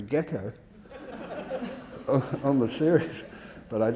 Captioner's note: audience laughing